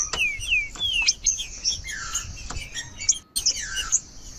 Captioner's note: trinca ferro cantando